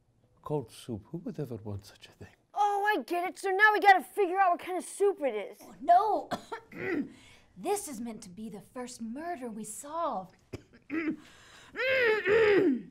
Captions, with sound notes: Cold soup--who would ever want such a thing? Oh, I get it! So now we gotta figure out what kinda soup it is! No! *coughs* This is meant to be the first murder we solve. *clears throat*